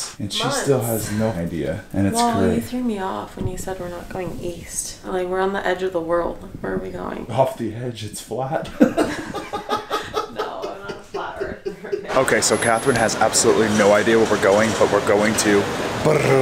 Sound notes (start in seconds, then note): 8.6 both laughing